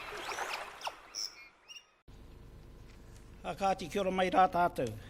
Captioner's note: waves crashing; seagull chirping; foreign Language